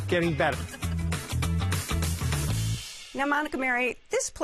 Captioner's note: chuckles